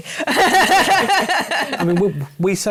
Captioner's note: laughter